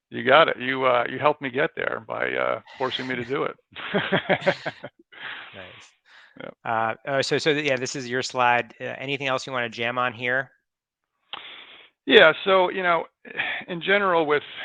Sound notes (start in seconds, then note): 2.7 laughs